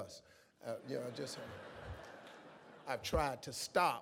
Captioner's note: audience laughs